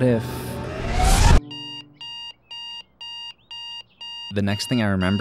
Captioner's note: alarm sound effect